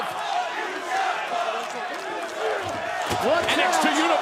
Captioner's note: crowd cheering